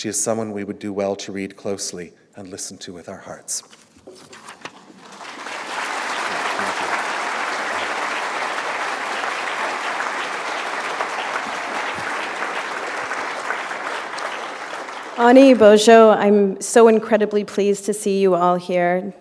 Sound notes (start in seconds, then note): 5.3 applause; 7.5 foreign language